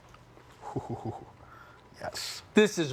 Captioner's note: chortling